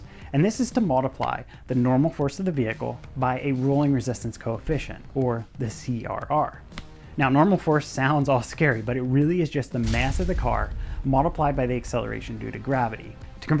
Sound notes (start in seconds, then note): 9.8 metal thuds